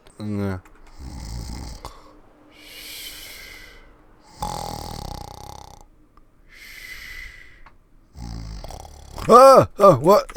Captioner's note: snoring